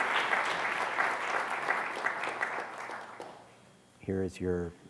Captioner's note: applause